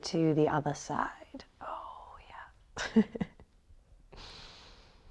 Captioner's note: chuckles